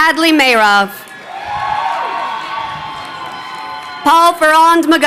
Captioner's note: crowd cheering